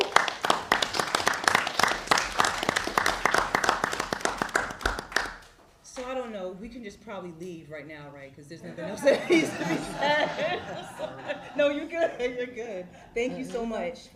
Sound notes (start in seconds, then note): 6.3 applause